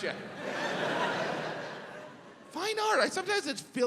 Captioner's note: audience laughs